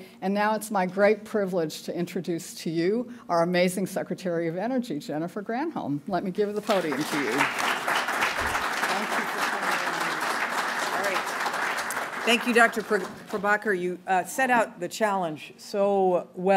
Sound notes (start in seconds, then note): 6.6 applause